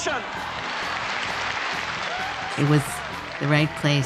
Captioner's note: cheers and applause